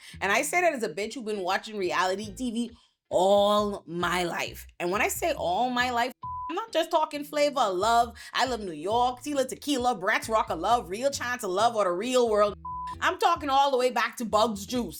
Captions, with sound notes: And I say that as a bitch, we've been watching reality TV all my life. And when I say all my life, (beep) I'm not just talking flavor, love, I love New York, see La Tequila, Bratz rock a love, real chance of love or the real world. I'm talking all the way back to Bugs Juice.